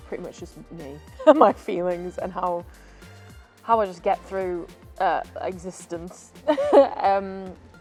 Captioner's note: laughs